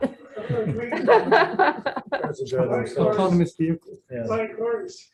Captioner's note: meeting members chattering